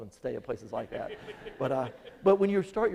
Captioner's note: audience laughing